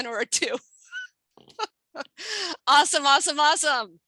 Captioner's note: laughs